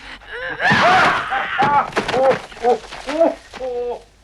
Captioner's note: Torente drunkenly laughs; Hundra roars; Torente groaning